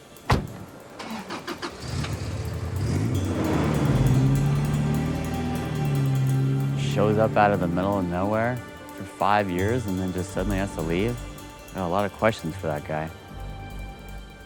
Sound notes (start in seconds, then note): 0.0 soft dramatic music; 0.2 door banging; 0.3 engine humming; 2.7 engine rumbling